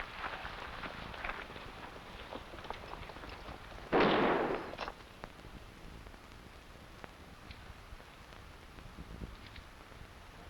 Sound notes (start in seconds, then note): 3.9 gunshots blasting